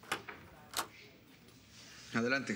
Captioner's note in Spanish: Sonido al abrir la puerta